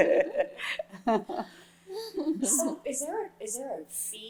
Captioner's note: laughter